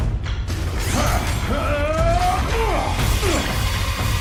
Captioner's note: grunting